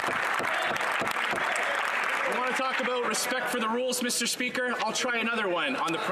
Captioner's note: some Applause